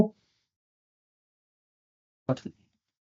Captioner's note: silence